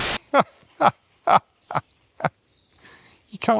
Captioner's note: laughter